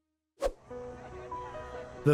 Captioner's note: swoosh; gentle music